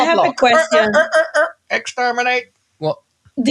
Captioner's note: Dalek voice; normal voice